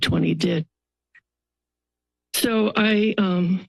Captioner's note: pause